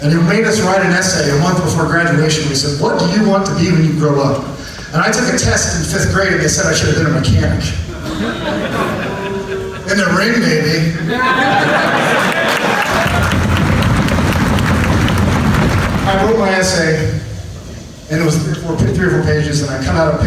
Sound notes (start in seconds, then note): 7.8 audience laughs; 11.0 audience applauds